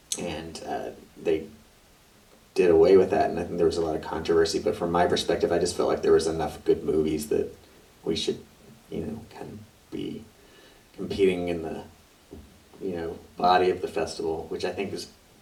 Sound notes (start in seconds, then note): none